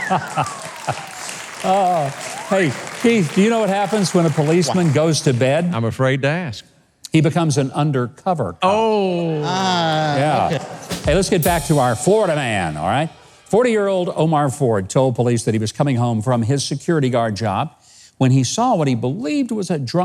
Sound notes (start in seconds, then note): 0.0 audience laughs; 1.5 applause